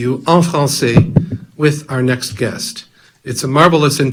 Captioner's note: speaks in foreign language